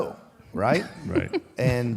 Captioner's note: Michelle laughs